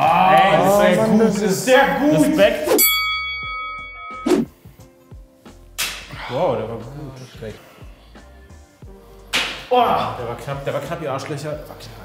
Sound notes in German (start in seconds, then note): 2.8 Boxring-Glocke